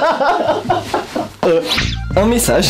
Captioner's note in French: Rires intelligents